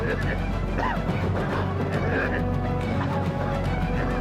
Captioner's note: coughing